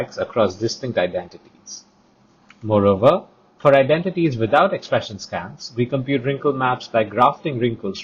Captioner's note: click